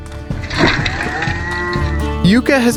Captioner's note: slow motion sound